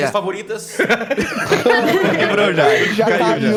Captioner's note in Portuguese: Risos